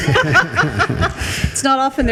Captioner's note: group laughs